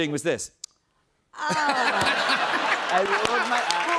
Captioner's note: laughter